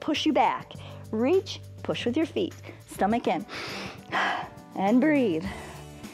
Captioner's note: inhales